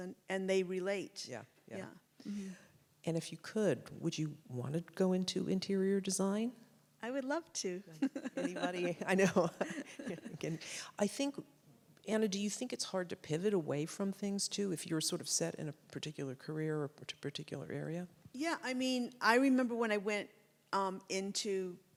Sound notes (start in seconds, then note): 7.9 laughs; 7.9 anna giggles